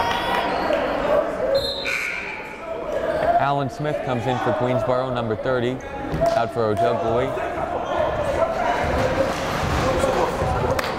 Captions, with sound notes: (whistle blowing) (buzzer blaring) Alan Smith comes in for Queensborough, number 30, after Ojugbele. (yelling)